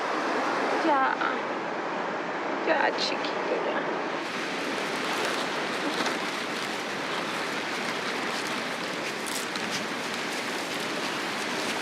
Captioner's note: speaking in Spanish